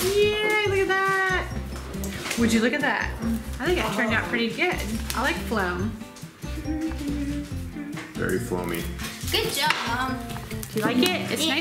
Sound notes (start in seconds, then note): 6.4 humming